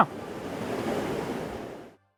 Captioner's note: water roaring